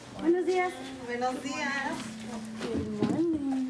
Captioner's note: speaking in Spanish